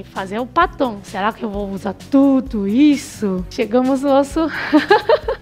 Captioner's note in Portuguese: risos